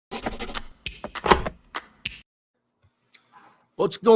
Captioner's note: pen scratching